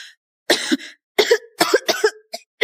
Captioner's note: cough cough cough